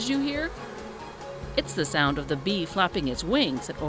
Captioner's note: buzzing